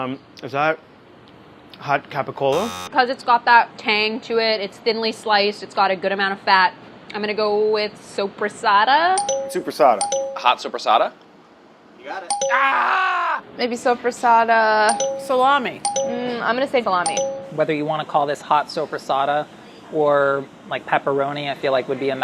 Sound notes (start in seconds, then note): 2.5 buzzing; 10.0 dinging; 12.3 dinging; 14.8 dinging